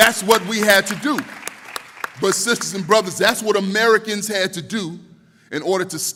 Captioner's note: applause